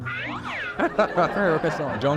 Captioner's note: laughter